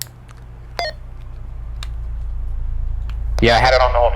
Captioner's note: radio beeps